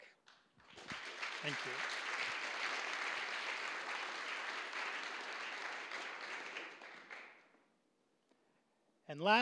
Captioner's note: applause